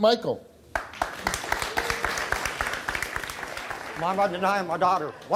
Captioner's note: applause